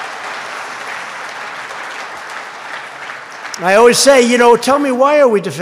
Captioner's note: applause